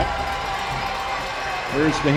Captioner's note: crowd